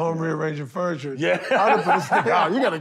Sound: laughs

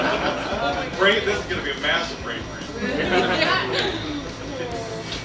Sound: laughter

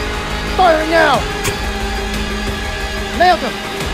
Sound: shot Sound

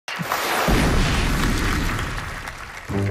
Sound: applause

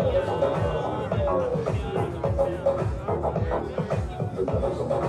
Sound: murmuring; upbeat electronic music

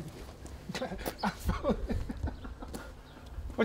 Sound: laughs

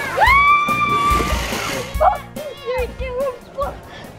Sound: screaming

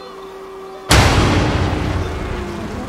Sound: thunderclap

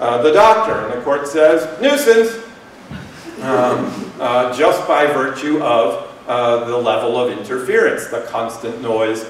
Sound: laughter

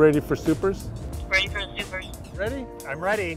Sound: voice-over

